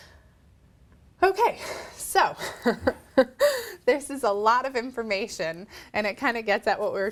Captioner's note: laughs